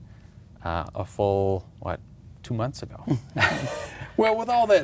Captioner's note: laughs